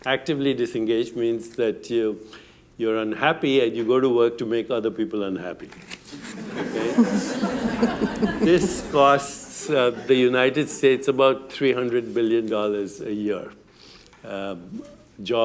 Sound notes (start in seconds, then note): 6.2 laughter